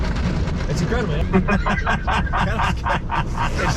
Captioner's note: laughter